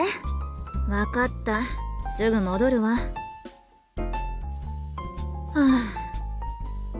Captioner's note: sigh